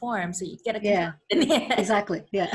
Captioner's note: laughs